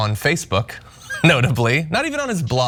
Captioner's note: laugh